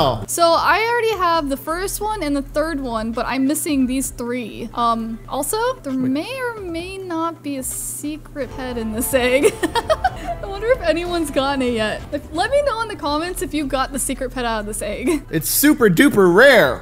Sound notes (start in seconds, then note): 9.4 laughs